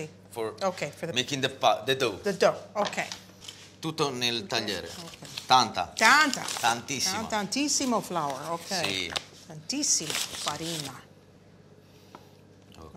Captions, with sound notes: Si, si, si. --for-- OK, for the-- --making the pas-- the dough. The dough, OK. [ITALIAN]